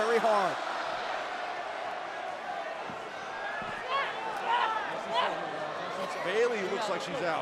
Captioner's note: crowd cheering